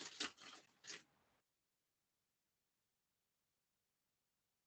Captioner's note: paper shuffling